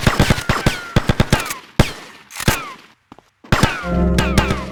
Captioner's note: gun fires